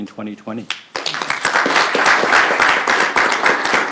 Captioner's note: appluase